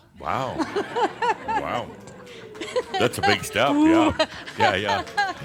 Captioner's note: more chuckles; she chuckles; she continues chuckling